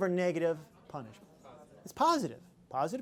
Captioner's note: chatter